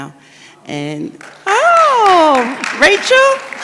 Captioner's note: audience applauds